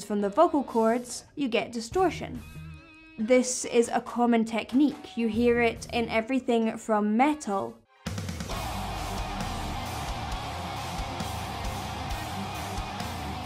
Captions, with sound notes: from the vocal chords, you get distortion. This is a common technique. You hear it in everything from metal, (guttural screaming)